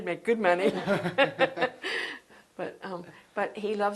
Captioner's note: laughter